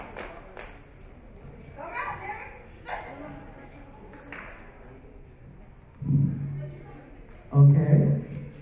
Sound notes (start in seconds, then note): 4.3 audience chatter